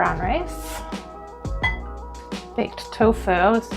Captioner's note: clinking